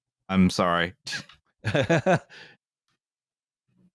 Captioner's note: laughs